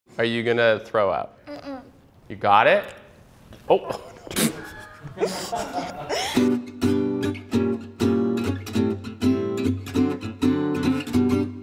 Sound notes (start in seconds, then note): 3.8 everyone laughs; 6.5 upbeat music